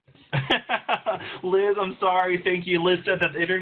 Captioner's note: laughter